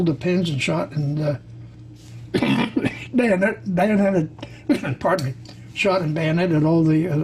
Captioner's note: coughs